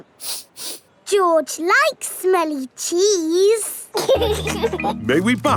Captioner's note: sniffs; laughing